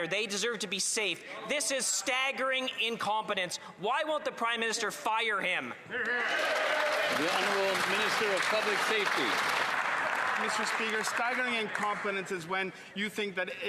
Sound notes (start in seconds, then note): 11.0 applause